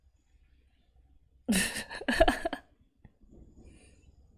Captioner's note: laughs